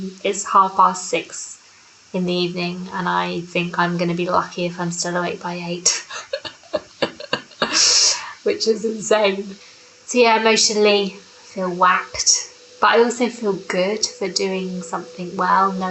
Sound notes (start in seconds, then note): 5.8 laughs